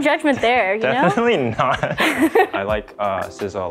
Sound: laugh

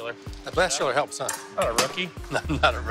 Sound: laughs

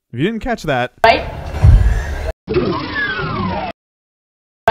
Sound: door opening sound

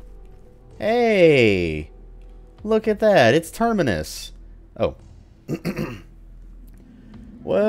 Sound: clears throat

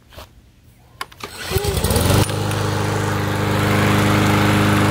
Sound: lawnmower starts

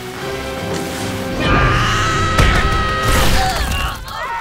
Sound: grunting; screaming

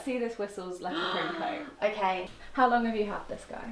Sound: gasps excitedly

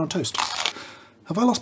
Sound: chomp

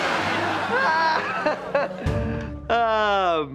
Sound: laughing

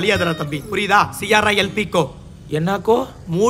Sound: speaks foreign language

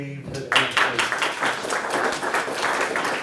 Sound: applause

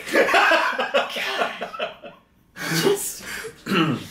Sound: laughing; sighing

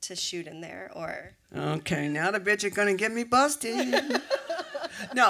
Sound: laughter

